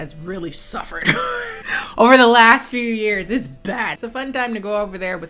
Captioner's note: laughs